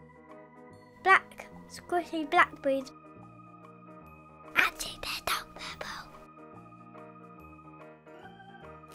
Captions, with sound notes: Black squishy blackberries. [whispers] Actually they're dark purple!